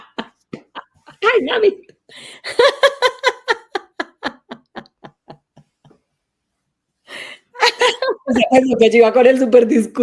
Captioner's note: laughs